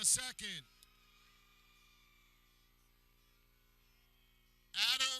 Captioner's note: people cheering